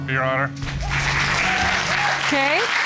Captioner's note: cheers and applause